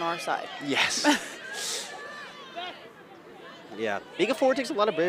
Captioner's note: chuckles